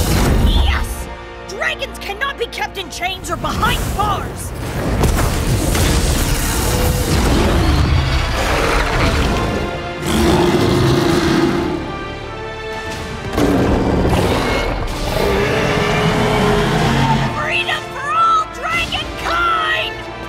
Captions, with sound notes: Yes! Dragons cannot be kept in chains or behind bars. [roaring] [loud roar] [roaring continues] [loud roaring] Freedom for all dragon-kind!